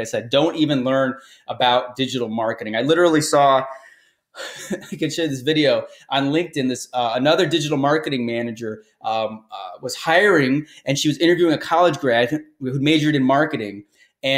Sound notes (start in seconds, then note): 4.4 chuckles